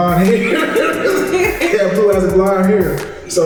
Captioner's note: laughing